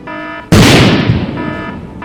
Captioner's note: boom